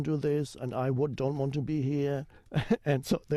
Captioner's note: chuckles